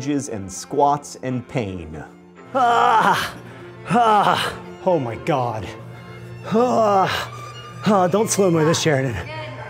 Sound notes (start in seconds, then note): 2.6 grunting